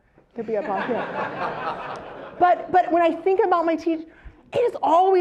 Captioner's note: laugh